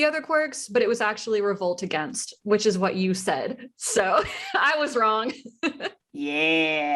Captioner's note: laughter